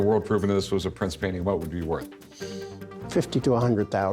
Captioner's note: none